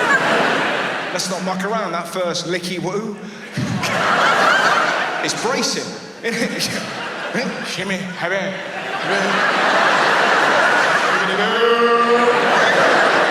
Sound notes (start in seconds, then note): 0.0 audience laughs; 3.1 audience laughs; 7.3 gibbering; 10.3 audience laughs